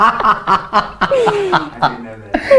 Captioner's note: laughs